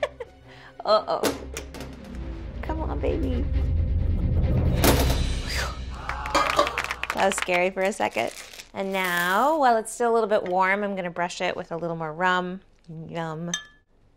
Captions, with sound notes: Uh-oh. [suspenseful music] Come on, baby. [suspenseful music] [hands clapping] That was scary for a second. And now, while it's still a little bit warm, I'm going to brush it with a little more rum. Yum.